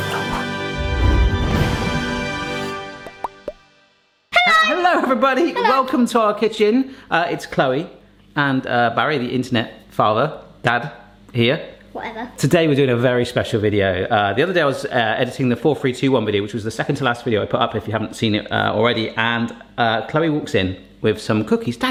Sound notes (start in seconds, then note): 0.0 musical blast; 3.0 popping